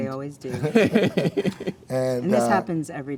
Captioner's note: all laughing